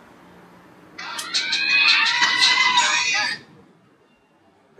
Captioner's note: phone ringing